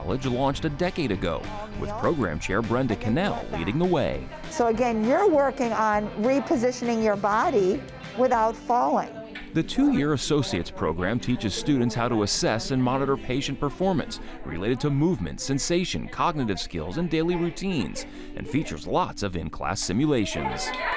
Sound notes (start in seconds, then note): 4.6 class chatters; 12.2 class chatters; 20.5 class cheers; 20.6 class applauds